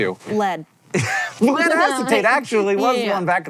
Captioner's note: laughing